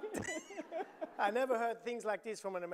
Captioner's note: audience laughing